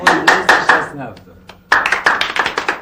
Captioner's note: people applauding; speaking foreign language; people applauding